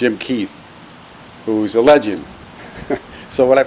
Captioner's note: laughs